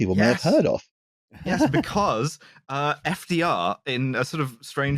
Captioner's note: laughs